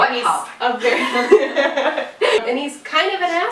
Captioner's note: laughs